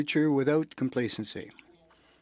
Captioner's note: speaking french